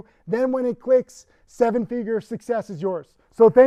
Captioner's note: none